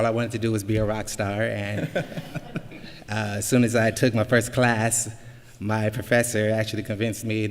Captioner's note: laughter